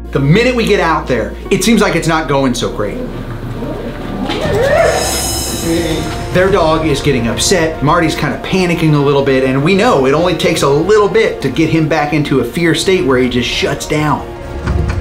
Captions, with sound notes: - The minute we get out there, it seems like it's not going so great. (dog barking) Their dog is getting upset. Marty's kind of panicking a little bit and we know it only takes a little bit to get him back into a fear state where he just shuts down.